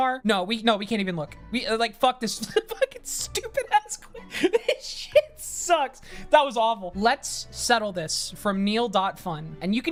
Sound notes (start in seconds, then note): 4.1 laughs